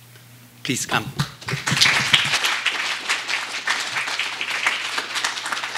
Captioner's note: applause